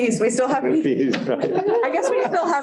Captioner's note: laughter